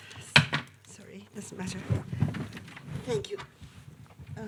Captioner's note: object thudding